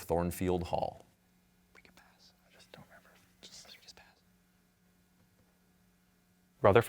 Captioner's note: team whispering